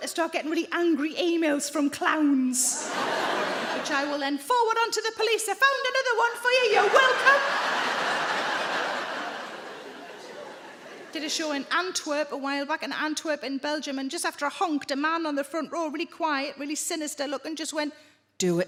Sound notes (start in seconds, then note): 6.7 audience laughing